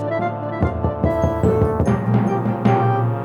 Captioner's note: knocking on door